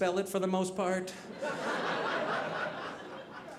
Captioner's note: audience laughing